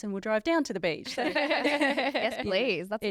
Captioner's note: all laughing